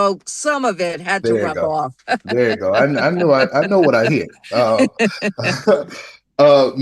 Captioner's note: laughter